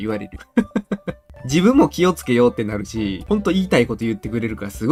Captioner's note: laughter